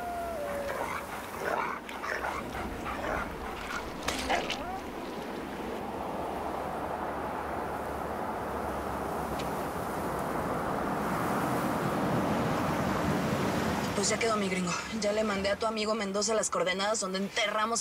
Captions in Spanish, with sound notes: [Canto de pájaros] [Sonido del carro] - PUES, YA QUEDO, MI GRINGO. YA LE MANDE A TU AMIGO MENDOZA LAS COORDENADAS